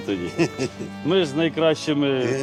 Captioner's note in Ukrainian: сміх